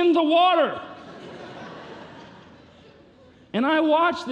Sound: congregation laughing

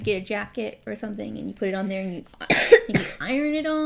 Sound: cough

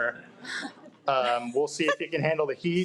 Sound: people chuckling

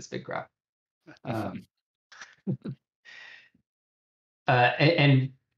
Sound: laughter

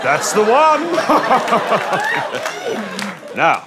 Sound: laughs

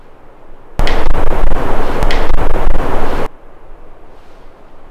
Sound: static crackling

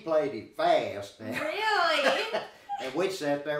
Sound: both laughing

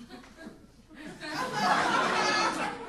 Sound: audience laughing

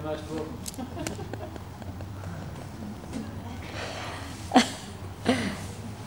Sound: shri mataji laughs

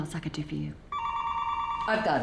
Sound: telephone rings

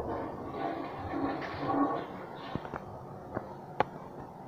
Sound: Cadet Pro flushing

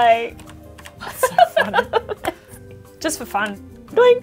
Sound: laughs

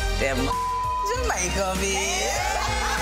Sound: beep

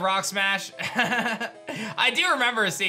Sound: laughs

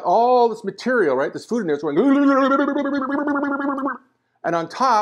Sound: funny noise

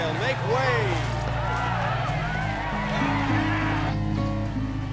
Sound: people cheer

